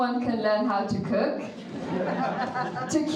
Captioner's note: audience laughing